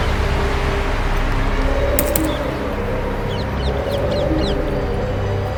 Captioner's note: dinosaur sounds and birds chirping